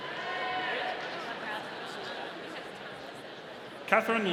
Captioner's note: audience cheering